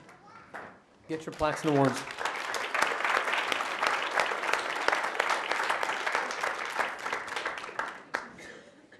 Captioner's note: applause